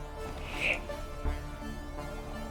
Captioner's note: hisses